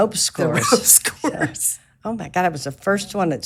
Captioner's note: laughing